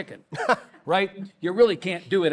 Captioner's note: laughs